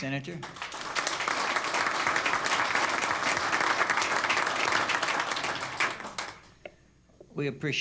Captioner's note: applause